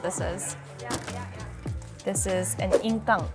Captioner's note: door clacking